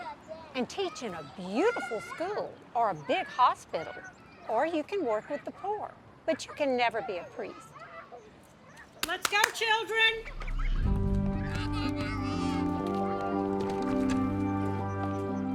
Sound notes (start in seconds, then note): 9.0 Sister Jean clapping; 10.8 soothing music